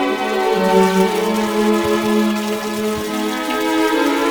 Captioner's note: sound of water flowing